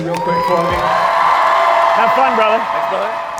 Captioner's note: crowd cheering